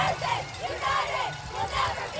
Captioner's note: chanting